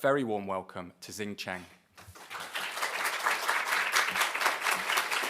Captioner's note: applause